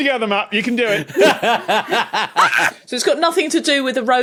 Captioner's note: belly laughs; squawks